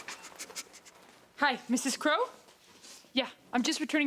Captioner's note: Eddie sniffles